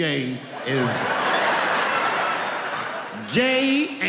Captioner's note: laughing